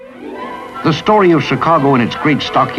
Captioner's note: voiceover